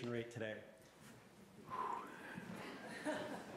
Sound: exhales

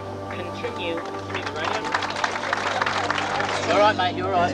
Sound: crowd cheers

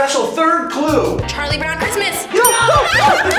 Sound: bell rings

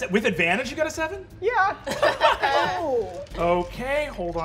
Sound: all laughing

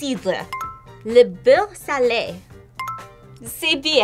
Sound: bell rings; bell rings

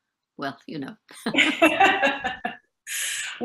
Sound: laughing in unison

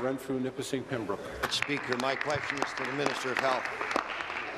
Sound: applause

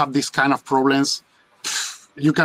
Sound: exhales deeply

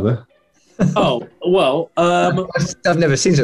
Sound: laughing

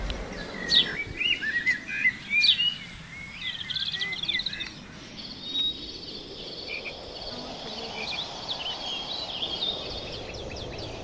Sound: birds and insects sounds

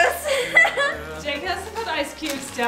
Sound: teenage girl chuckling

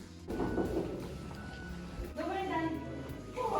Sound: knock on the door

